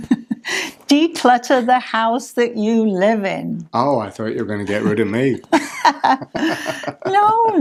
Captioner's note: laugh